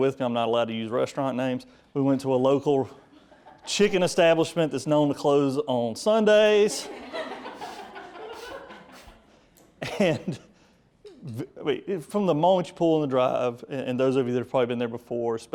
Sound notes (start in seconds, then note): 6.4 audience laughs